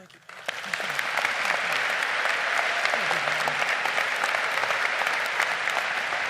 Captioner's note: audience applauding